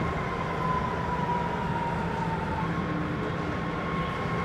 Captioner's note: siren wails